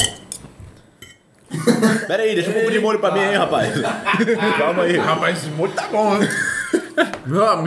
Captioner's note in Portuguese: risos